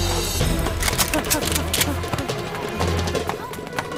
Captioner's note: Gun cocks